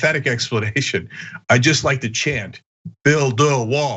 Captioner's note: laugh